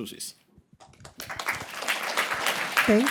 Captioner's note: applause